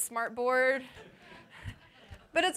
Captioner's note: laughter